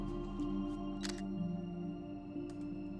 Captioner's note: camera shutter